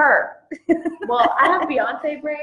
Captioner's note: laughs